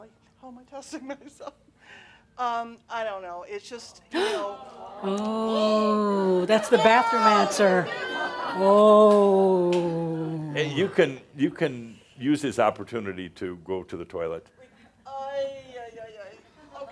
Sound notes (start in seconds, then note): 4.1 she chuckles; 4.1 gasps and audience says “Ohhh!”